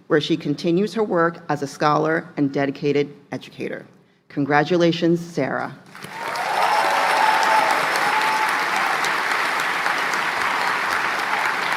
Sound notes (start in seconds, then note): 5.9 applause; 8.1 cheering; 10.1 applause